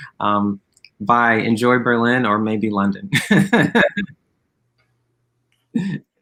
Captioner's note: laughs